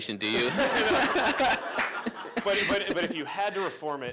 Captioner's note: laughter